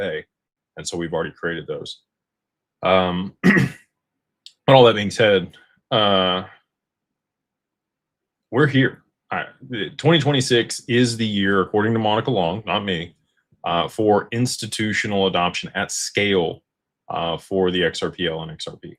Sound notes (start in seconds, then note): 3.2 clears throat